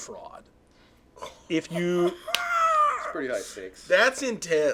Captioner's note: laughing